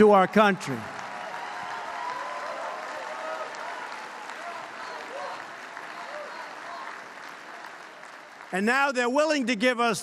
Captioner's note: applause